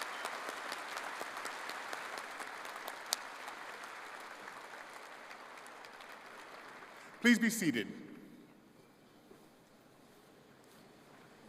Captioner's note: applause